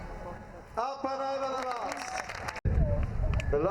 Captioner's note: clapping